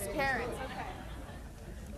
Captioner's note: chatter